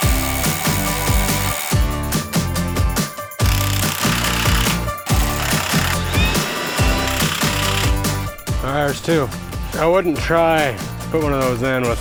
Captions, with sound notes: (drill buzzing) (blower whining) (drill buzzing) All right, there's two. I wouldn't try put one of those in